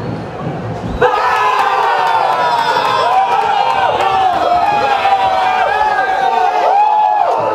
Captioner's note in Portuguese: sons da torcida; gritos de gol; torcida celebrando